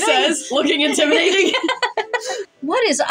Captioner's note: laugh; chuckle